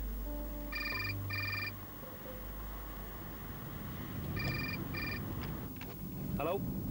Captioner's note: mobile phone ringing